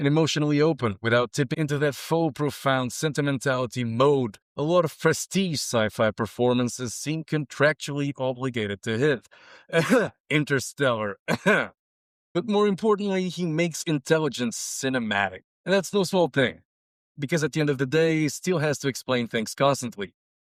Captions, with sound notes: And emotionally open, without tipping into that faux-profound sentimentality mode, a lot of prestige sci-fi performances seem contractually obligated to hit (Cough) "Interstellar" (Cough) But more importantly, he makes intelligence cinematic. And that's no small thing Because at the end of the day, he still has to explain things constantly